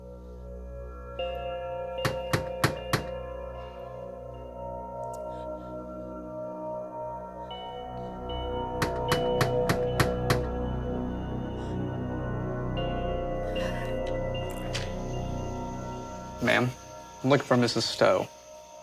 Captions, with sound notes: (knocking) (knocking) - Ma'am, I'm looking for Mrs. Stowe.